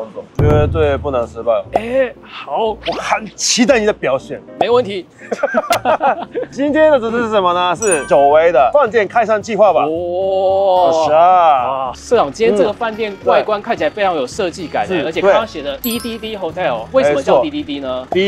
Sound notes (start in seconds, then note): 5.2 laughing awkwardly but not disrespectfully